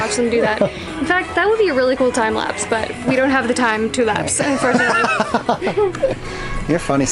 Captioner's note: laughs